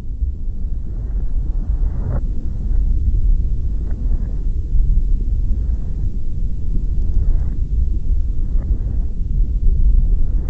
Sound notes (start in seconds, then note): 0.0 static-like noise with faint rustling